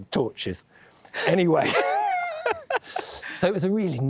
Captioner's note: laughs